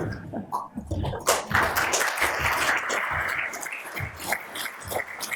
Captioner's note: audience applauds